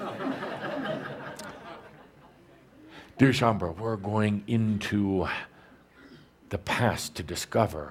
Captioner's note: laughter